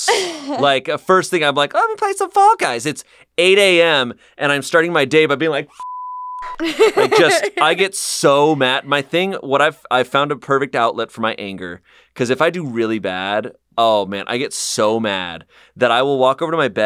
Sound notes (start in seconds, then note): 5.8 beep; 6.5 laughs